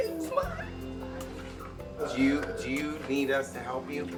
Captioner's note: crying